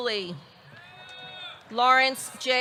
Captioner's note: audience cheering